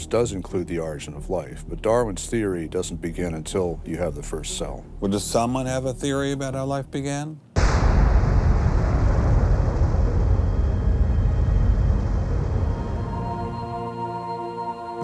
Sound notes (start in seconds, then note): 7.5 explosion